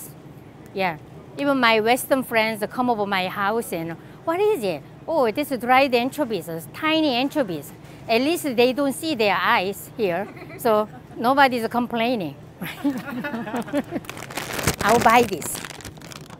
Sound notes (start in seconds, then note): 10.1 readers laugh; 12.7 laughs